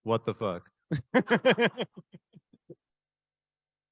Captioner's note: laughing